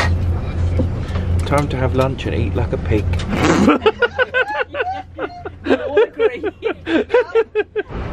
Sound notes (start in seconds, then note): 3.4 all laughing